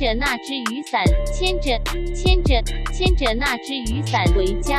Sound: sick rapping by google translate

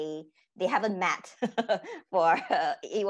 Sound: laughing

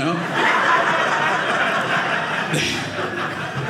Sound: audience laughing

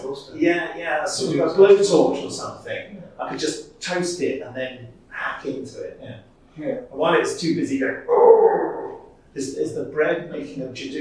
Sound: Judoon Noise

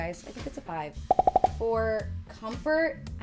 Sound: emojis popping

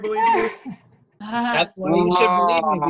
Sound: laughter

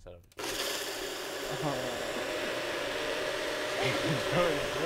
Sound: blenders whirs

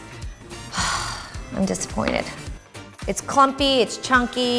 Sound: sighing

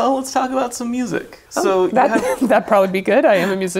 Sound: laughs

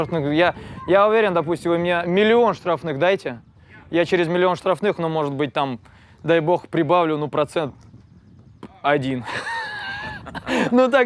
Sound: laughs

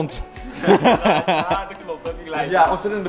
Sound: laughing

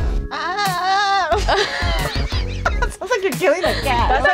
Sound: imitating screaming; screaming; all laughing

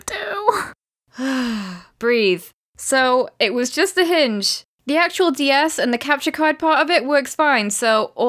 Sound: inhale

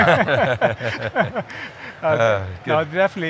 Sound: laughing

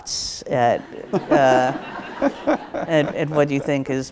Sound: audience laughs

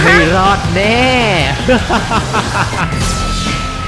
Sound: intense laugh again

